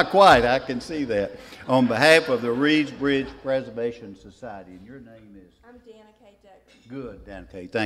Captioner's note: laughs